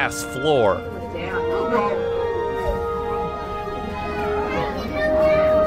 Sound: Skyway passengers Ooo and Ahh

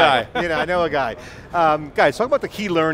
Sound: laughter

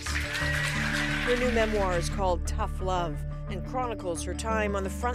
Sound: applause

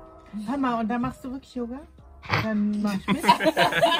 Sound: laughs

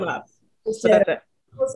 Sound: laughing

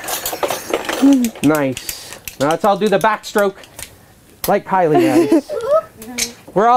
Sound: laughs

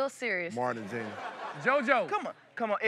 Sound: laughing

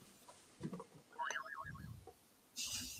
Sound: boing

